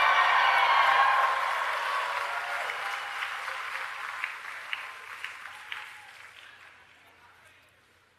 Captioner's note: cheering